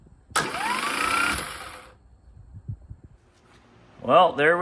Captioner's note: starter whirrs